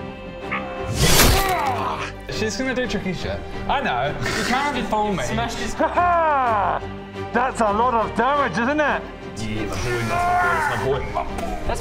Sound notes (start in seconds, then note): 0.8 rwarrgghh!